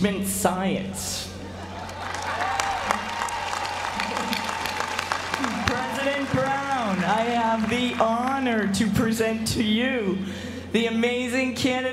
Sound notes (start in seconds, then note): 1.7 applause